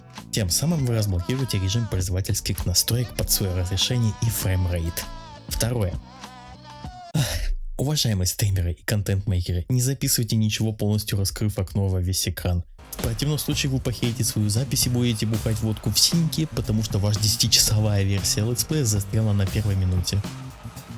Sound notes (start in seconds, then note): 7.1 sigh